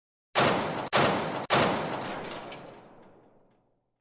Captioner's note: three blasts